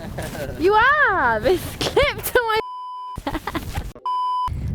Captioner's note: beep